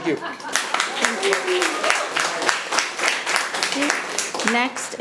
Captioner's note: audience applauding